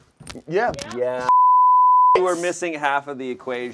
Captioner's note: beep